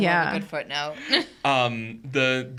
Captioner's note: podcaster chuckling